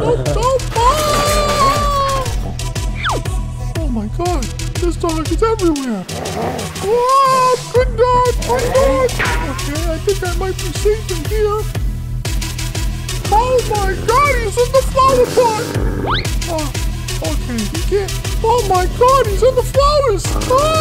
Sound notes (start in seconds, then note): 0.0 puppy growling; 0.8 trash can crashes to the floor